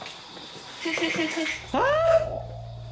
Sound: laughing

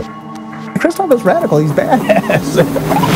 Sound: laughs

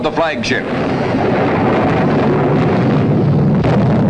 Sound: bomb blasting

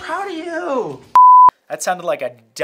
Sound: beeping

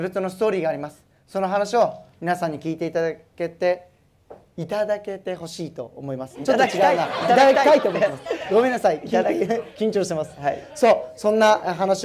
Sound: laugh

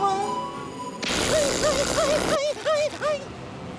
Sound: whimpering

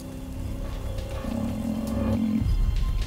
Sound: growling

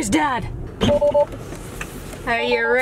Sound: beeping

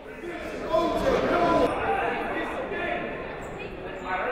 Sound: chatting

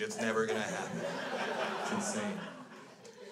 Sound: crowd laughs

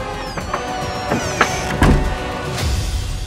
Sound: door creaks

